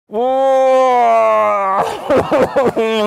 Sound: groaning

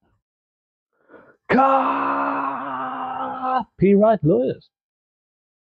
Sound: shouts

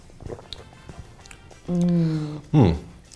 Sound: glugging

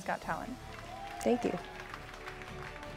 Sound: audience cheering; dramatic music

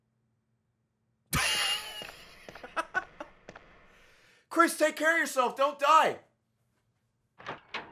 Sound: laughs

